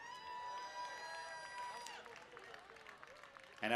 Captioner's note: cheering